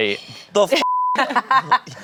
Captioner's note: beep; laughs